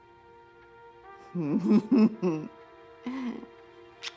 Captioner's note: laughing